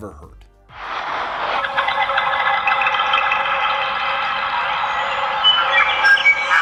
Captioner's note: whistling and birds chirping